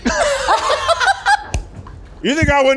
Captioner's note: all laugh